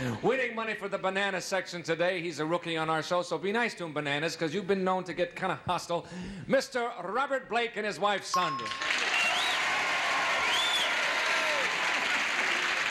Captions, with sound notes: winning money for the banana section today, he's a rookie on our show, so to be nice to him, bananas, 'cause you've been known to get kind of hostile. Mr. Robert Blake and his wife, Sondra. [applause]